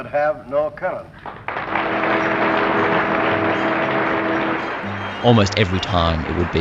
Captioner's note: applause